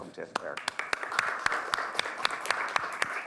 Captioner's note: applause